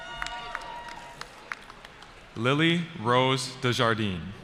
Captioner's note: cheering